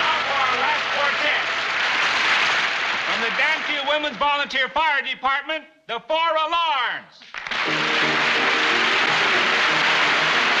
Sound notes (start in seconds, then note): 1.6 applause continues